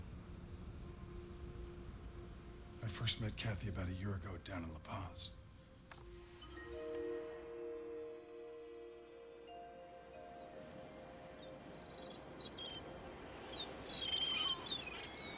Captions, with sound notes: - I first met Cathy about a year ago down in La Paz. (gentle music) (birds singing)